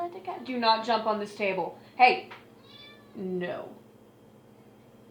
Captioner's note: cat meows